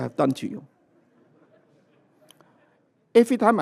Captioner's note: laughter